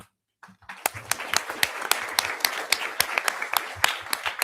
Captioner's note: audience applauding